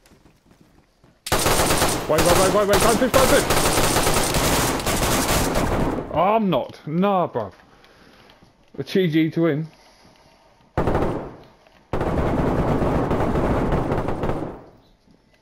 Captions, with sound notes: [gunshots] Wait, wait, wait, wait, dont shoot, dont shoot [gunshots] Arg i'm knocked. Nahh bruv Well GG to him [gun shots] [gun shots]